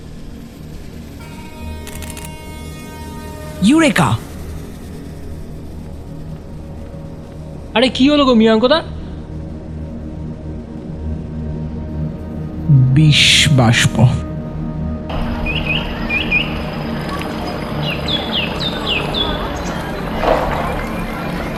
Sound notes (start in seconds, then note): 1.2 distant train whistle; 15.1 riverside noise and crowd